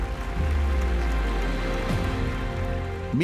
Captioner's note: applause